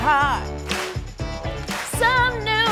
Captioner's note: clapping